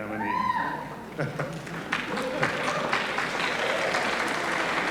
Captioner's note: applause